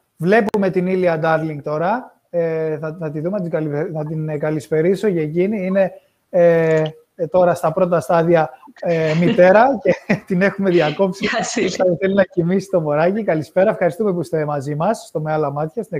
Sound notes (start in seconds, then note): 8.9 γέλια